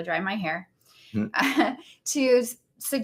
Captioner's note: laughs